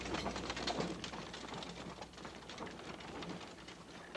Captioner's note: wagon rattling